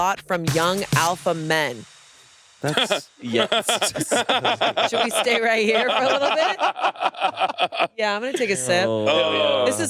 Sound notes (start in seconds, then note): 2.6 Hasan laughs; 6.9 all laughing